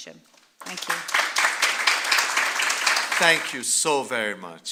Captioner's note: applause